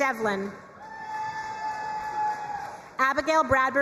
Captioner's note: crowd cheering and applauding